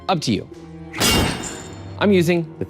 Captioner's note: knife clangs